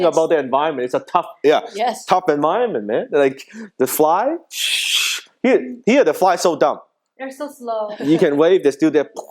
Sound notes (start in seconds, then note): 4.6 imitating fly flying